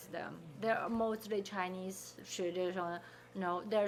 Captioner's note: speaking Chinese